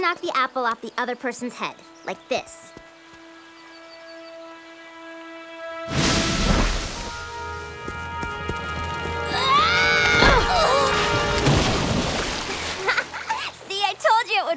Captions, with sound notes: off the other person's head, like this. [screaming] [splashing] [laughing] See, I told you it would work.